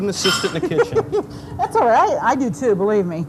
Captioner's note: laughs